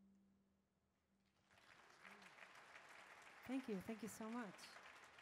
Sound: audience claps

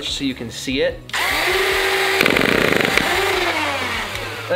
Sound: machine whirrs

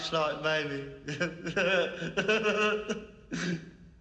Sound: chuckles

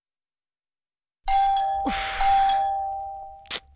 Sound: door bell rings

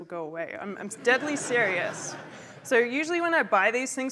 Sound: laughter

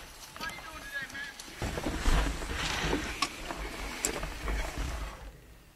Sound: loud Voice

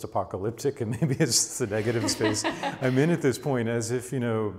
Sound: laughs

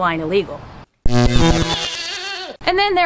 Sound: electrical zap

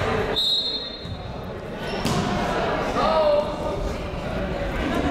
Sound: whistle blows

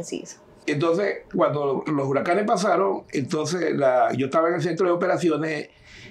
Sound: speaking in Spanish

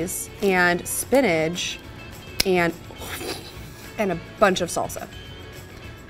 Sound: laughs

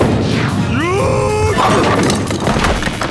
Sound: screaming

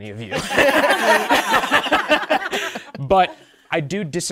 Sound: participants laughing

